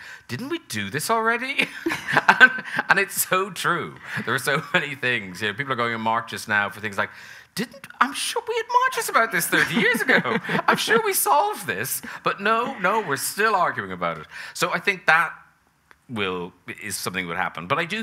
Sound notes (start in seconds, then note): 9.3 laughing; 10.8 audience laughing